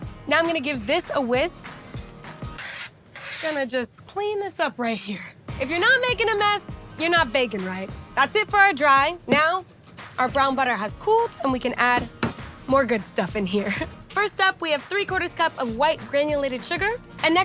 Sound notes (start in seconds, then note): 2.9 metal scraping; 13.6 chuckling